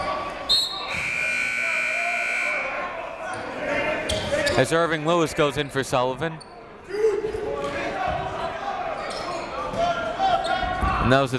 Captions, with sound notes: (whistle) (buzzer) As Irving Lewis goes in for Sullivan.